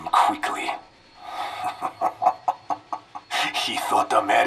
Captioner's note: laughs